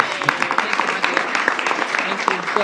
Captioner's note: applause